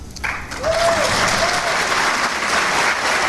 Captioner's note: clapping